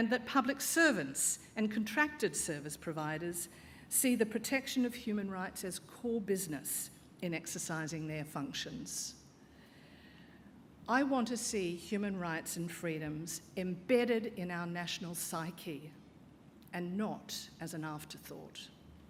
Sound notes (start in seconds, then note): none